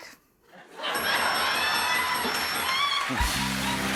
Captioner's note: dinging